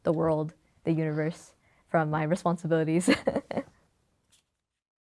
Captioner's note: laughs